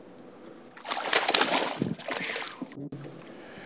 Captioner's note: splash